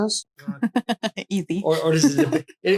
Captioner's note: laughs